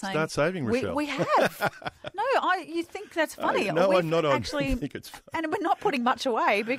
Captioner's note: laughs